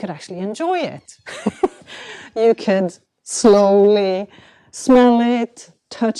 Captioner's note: chuckles